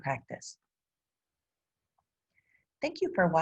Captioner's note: silence